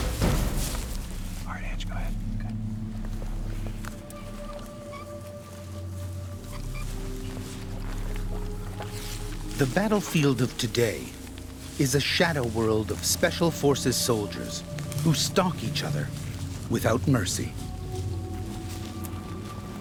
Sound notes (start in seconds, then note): 1.6 voiceover; 9.8 voiceover